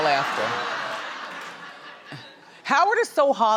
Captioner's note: audience laughing